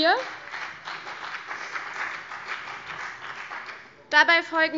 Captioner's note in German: Beifall CDU und BÜNDNIS 90/DIE GRÜNEN